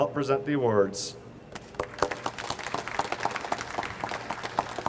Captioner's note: audience applauds